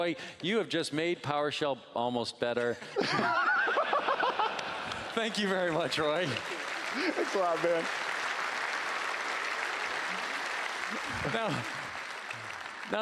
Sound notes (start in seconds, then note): 3.0 laughing; 8.0 applause